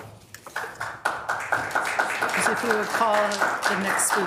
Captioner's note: audience claps